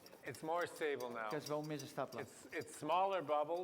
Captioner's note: non-english speech